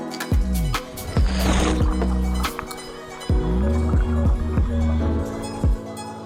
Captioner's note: water sound